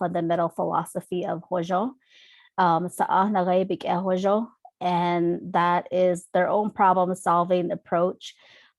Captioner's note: non-english speech